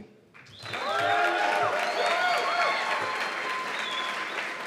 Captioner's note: cheers and applause